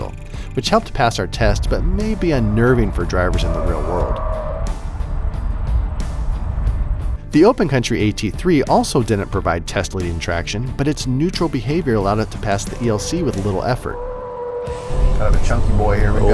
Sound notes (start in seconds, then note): 5.1 truck tire noises; 13.9 tires screeching